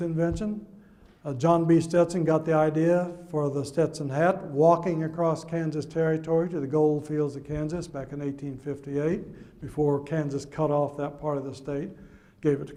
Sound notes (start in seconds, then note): none